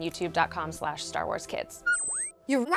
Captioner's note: beeping